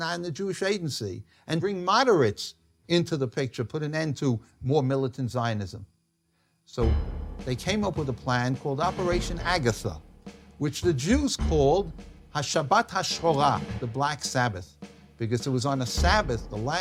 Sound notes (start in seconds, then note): 12.4 speaks in Hebrew